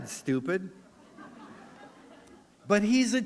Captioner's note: laughter